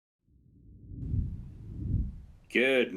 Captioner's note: graphics whooshing